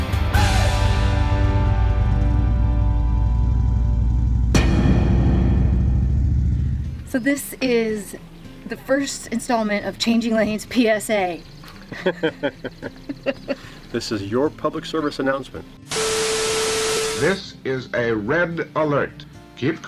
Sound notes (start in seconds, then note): 2.4 engine revving; 11.9 man laughs; 16.2 static crackles